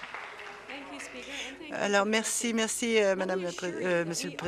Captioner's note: applause